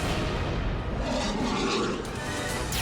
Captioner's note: boom